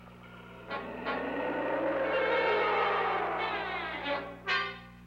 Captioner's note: roaring